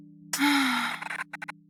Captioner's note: Canary sighs